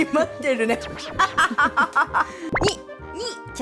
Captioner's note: indecent laughter